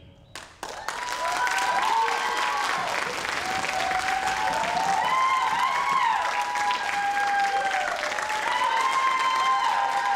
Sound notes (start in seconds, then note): 0.3 audience applauds; 0.6 audience cheers